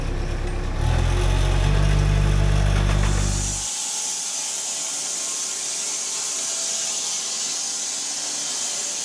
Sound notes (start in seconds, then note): 3.0 saw buzzing